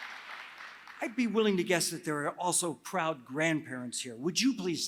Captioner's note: applause